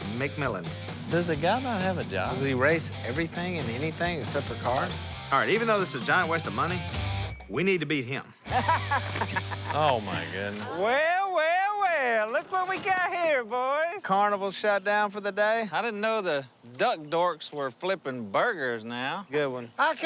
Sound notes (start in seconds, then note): 8.5 laughing